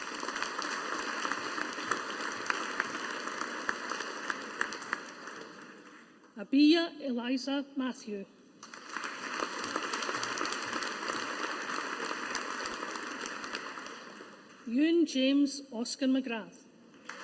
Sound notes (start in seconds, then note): 0.0 audience applauding; 8.6 audience applauding